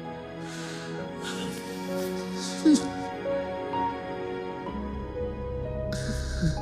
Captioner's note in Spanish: Sollozos